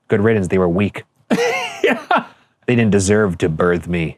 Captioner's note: laughing